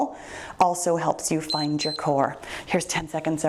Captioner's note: timer beeps